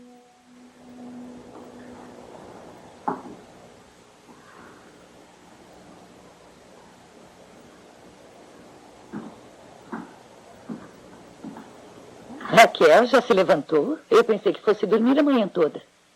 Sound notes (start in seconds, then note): none